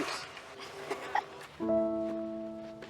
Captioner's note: chuckles; dramatic piano music